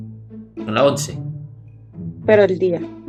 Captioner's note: Spanish